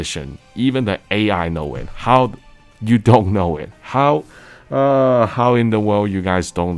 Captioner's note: sigh